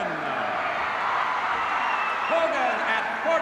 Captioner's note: crowd cheers